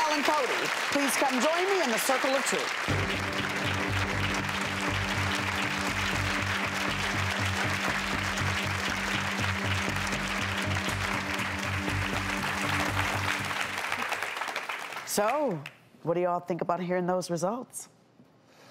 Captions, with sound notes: Shanelle and Cody please come join me in the circle of truth. (dramatic music) (audience applauds) So what do you y'all think about hearing those results?